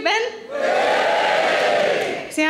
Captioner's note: audience cheering